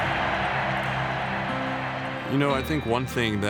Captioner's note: crowd cheering